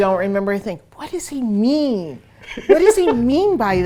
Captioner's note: laughs